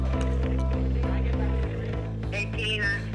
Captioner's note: phone ringing